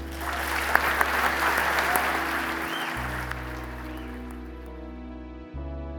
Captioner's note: audience applauding; smooth ambient music